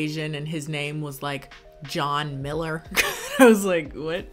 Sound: laughs

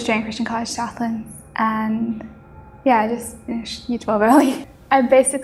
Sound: laughs

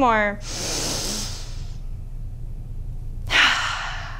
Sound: deep breathing

